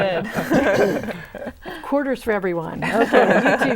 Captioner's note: laughing